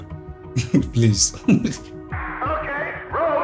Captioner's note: laughs